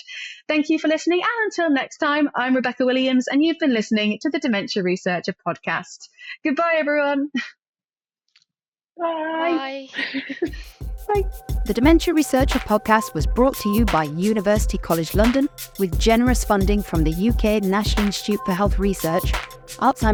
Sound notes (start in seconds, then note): 9.8 chuckles; 15.0 exciting upbeat music